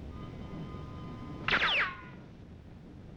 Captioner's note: gunshot